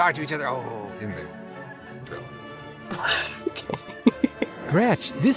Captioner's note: chuckles